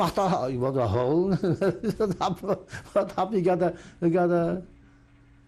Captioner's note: laughs